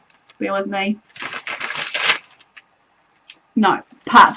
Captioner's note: turning pages